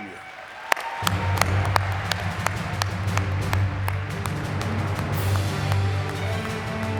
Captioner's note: audience clapping; upbeat music